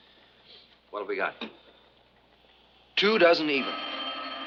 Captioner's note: telephone rings